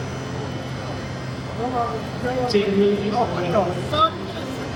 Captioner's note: crowd Chattering